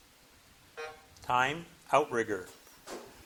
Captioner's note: buzzer buzzing